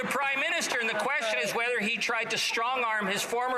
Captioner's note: some Laughter